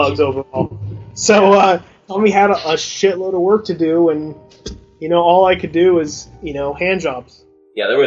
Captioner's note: through laughter